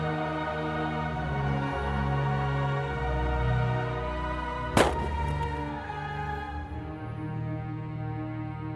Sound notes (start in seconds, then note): 4.8 gun shot